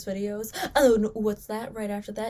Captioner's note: gasps